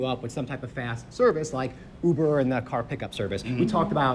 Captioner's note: laughs